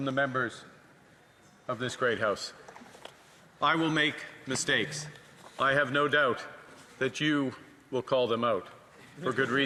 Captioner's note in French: voix de l'interprète